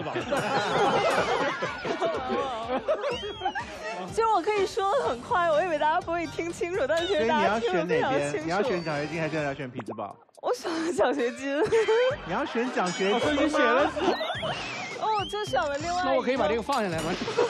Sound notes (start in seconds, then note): 11.6 heh heh